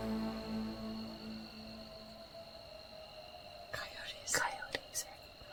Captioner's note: insects calling; coyotes howling